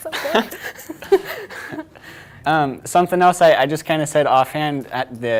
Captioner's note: both laughing